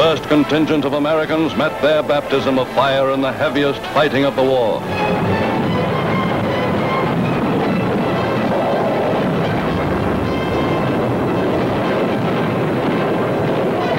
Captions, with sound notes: The first contingent of Americans met their baptism of fire in the heaviest fighting of the war. (cannons booming) (bright rousing music)